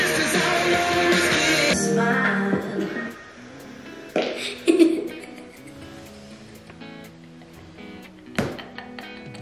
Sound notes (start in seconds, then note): 4.2 flatulence; 4.3 laughs